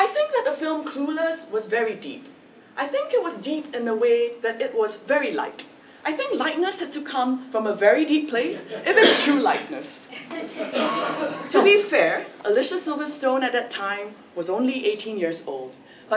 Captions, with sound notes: I think that the film Clueless was very deep. I think it was deep in the way that it was very light. I think lightness has to come from a very deep place, if it's true lightness. >> [LAUGH] >> To be fair, Alicia Silverstone, at that time, was only 18 years old.